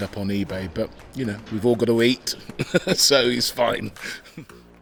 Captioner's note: chuckling